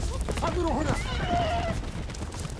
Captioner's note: speaks in arabic